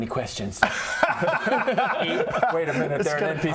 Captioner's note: don't-poke-the-plot-holes laughter